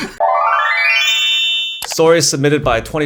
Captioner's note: bell chiming